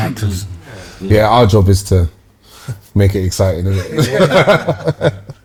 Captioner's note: laughter